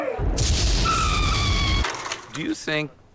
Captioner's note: crashing thunder; woman screaming